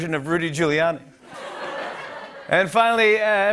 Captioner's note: laughter